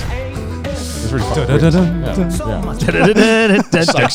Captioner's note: humming